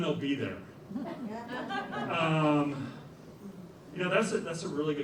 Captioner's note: laughter